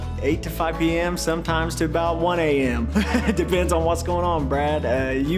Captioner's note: laughs